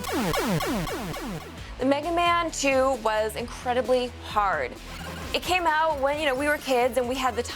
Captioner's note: blast sound effect